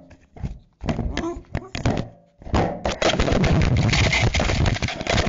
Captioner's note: corgi whining